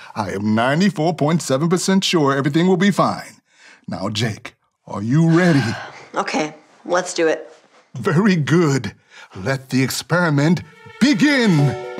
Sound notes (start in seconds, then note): 5.2 sighs